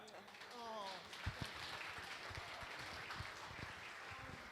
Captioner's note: applause